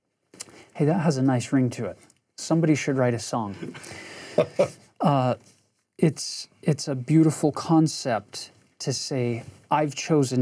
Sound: ha Ha

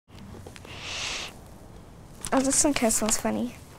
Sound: sniffing

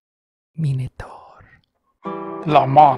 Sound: whisper

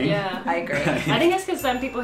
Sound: bell dings

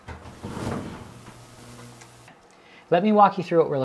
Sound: pause

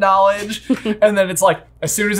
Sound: laughing

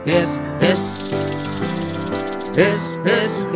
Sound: snake hissing

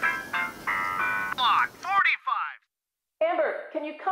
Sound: television chattering

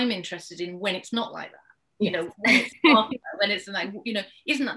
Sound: laughs

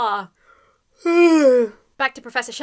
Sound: yawns

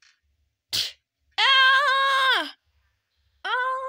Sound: scream

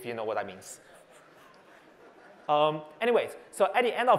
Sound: laughter

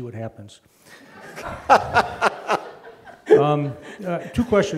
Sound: laughs

